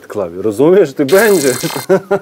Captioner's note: evil laughter